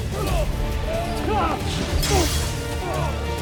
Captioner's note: growls & grunts; grunting; weapons swish, then clang; grunts